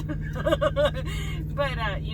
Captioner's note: laughing